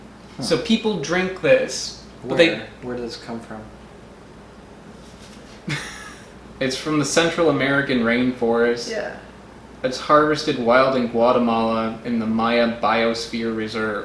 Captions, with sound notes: So people drink this but they --Where does it come from? [Wheeze laugh] It's from the Central American rainforest. It's harvested wild in Guatemala in the Maya biosphere reserve